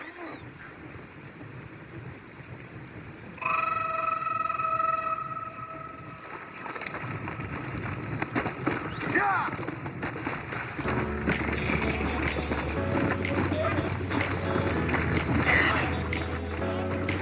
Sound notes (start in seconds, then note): 0.2 cries of effort and rain falling; 3.4 creepy music; 10.2 Sprinter-Zombie Screams